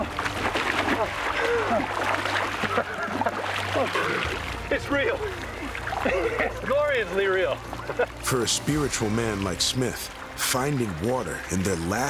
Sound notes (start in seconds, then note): 0.0 cheering, splashing; 1.6 splashing